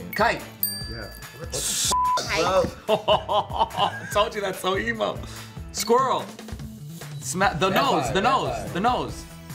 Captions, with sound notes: - Kite. - Yeah. What the- - (beep) Kite? (laughing) - I told you that's so emo. - Squirrel! The nose, the nose, the nose.